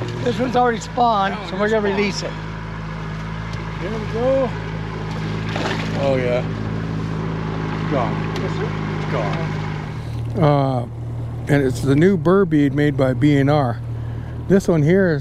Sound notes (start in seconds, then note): 5.0 fish splashing